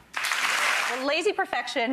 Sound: applause

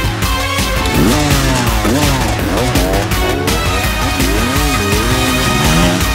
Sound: dirtbike revving

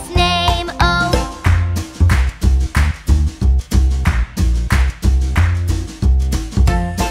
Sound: clap

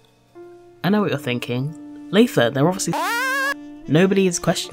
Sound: WA sound effect

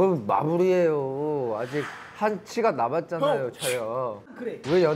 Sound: alcohol speaking

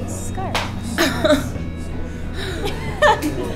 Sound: laughs

